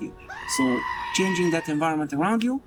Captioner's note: person screeches